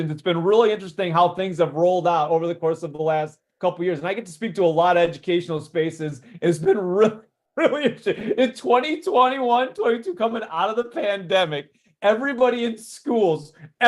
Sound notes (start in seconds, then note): 7.6 laughs